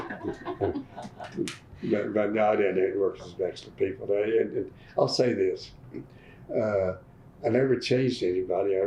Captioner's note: laughter